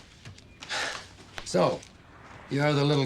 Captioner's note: exhales